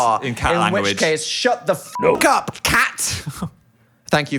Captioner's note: beep